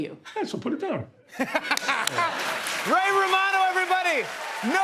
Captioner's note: laughs